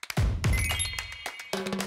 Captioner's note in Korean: 반짝이는 효과음